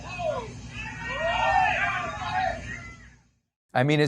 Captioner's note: players cheering